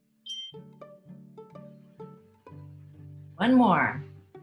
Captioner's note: bell dings